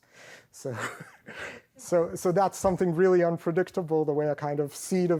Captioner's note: laughs